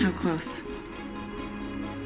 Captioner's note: none